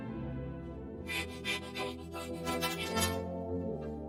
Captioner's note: panting frantically